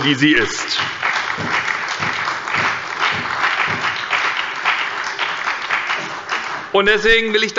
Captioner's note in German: Beifall bei der SPD und der FDP